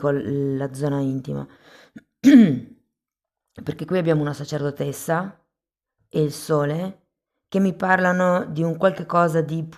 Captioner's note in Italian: schiarire la voce